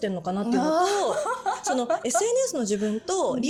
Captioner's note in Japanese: 笑い